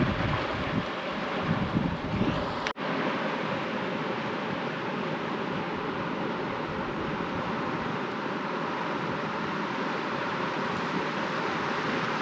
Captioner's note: water rushing